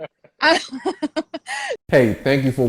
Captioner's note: laughs